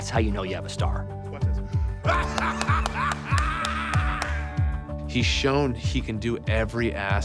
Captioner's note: laugh